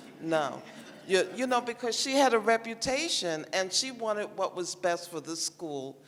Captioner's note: laughter